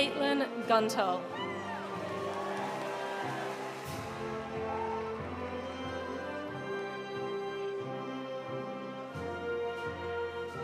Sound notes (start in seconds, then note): 1.3 audience cheering; 1.3 audience applauding